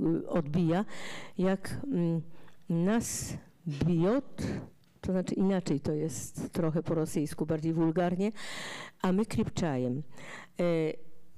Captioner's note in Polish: fraza po rosyjsku